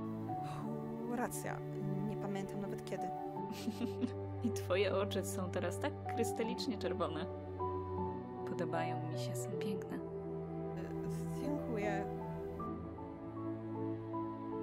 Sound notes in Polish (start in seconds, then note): 3.5 lekki śmiech